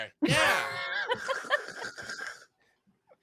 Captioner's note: laughs